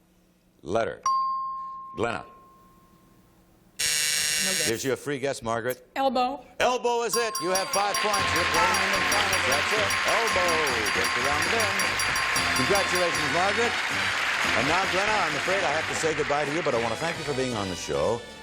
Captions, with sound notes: Letter. Letter. [ping] Glenna. [buzz] Here's your free guest, Margaret. - Elbow. - Elbow is it. You have five points. You're playing in the finals. That's it. Elbow, it's around the bend. Congratulations, Margaret. And now Glenna, I'm afraid I have to say goodbye to you.